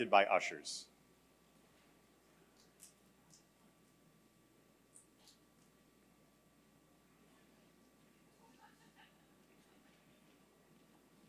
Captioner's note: laughter